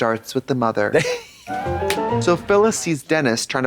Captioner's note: Katya smirtles; bright chime